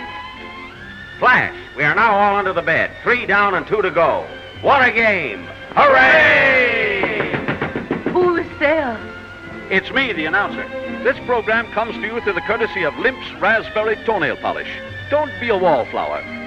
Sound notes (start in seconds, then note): 6.8 knocks on door